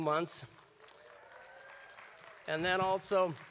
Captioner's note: audience applauding